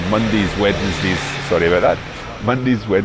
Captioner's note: motorcycle whirring